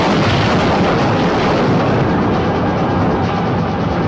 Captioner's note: crash booming